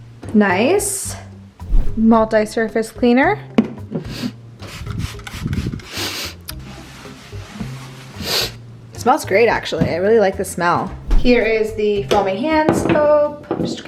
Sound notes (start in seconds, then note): 6.1 sniffing